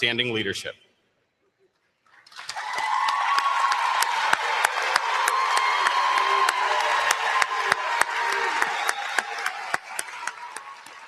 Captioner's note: applause